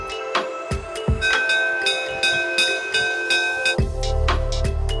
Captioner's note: bell ringing